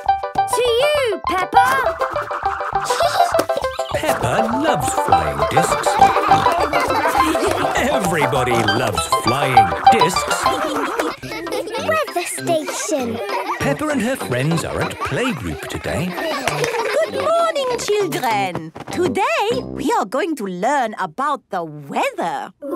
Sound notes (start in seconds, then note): 2.7 giggling; 5.9 snorting and laughter; 10.3 laughter